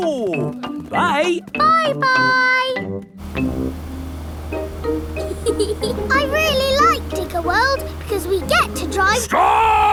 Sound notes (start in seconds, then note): 5.2 george chuckling